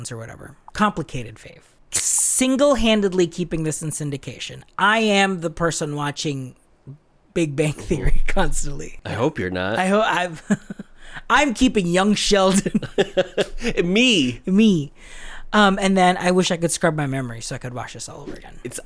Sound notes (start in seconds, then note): 12.3 laughs